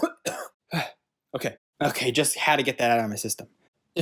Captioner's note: sighs